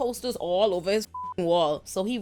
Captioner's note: beep